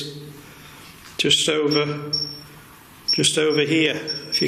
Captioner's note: beeping